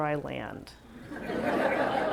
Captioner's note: laughs